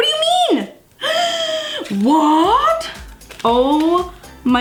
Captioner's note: breath gasping